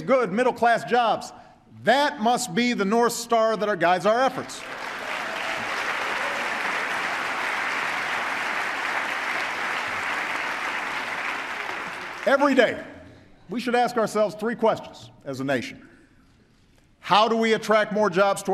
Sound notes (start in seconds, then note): 4.5 applause